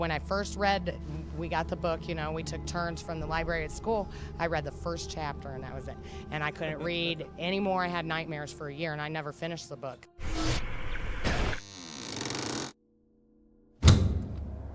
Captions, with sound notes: we got the book, you know, and we took turns from the library at school, I read the first chapter and that was it, and I couldn't read any more. I had nightmares for a year and I never finished the book. (Static buzzing) (Door creaking)